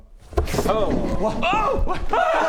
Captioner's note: excited scrambling